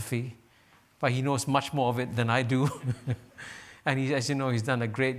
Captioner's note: chuckles